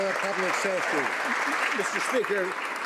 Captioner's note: some Applause